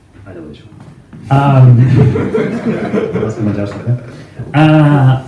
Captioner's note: laughs